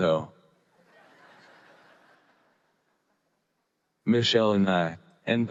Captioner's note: audience laughing